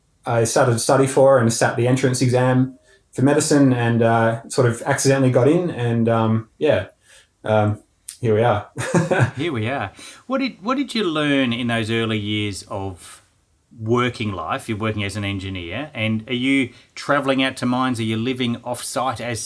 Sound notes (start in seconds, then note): 8.7 laughing